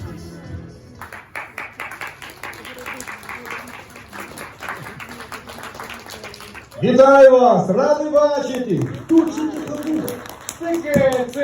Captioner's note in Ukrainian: оплески